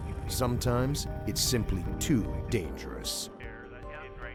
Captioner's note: voiceover